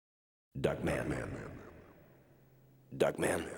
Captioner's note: echoing voice